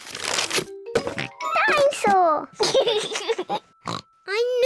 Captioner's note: oinks; laughs; oinks